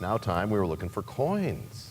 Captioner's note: bell rings, time expires